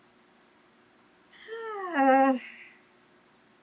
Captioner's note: sighs